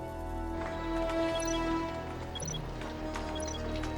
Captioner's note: chirping